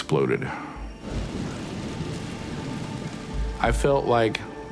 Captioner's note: flames crackling